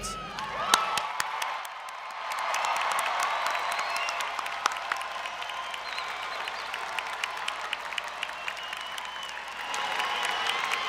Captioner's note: applause